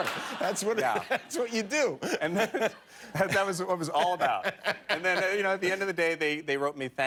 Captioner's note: laughter